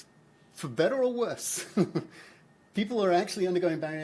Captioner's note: chuckles